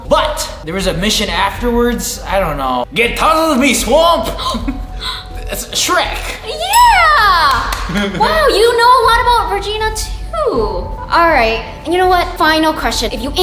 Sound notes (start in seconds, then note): 4.4 laughing; 7.4 clapping